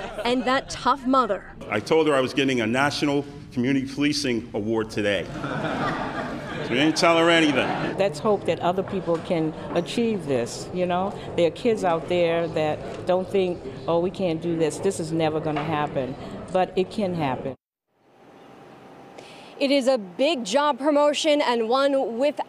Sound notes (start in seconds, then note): 8.3 laughter